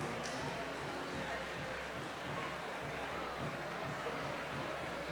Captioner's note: audience chattering